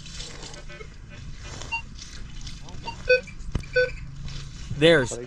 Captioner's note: beeping